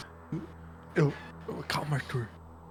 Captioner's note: laughs